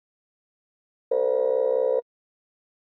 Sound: buzzer

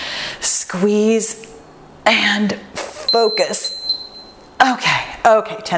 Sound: timer beeps

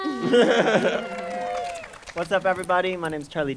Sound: audience cheering

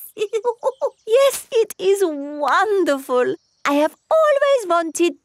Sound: laughs

